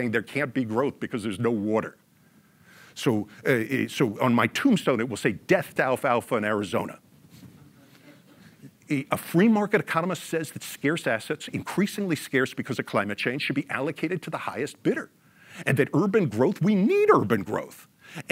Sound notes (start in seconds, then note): 7.6 audience laughs